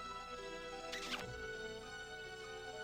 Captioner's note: smooch